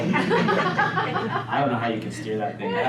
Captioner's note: audience laughs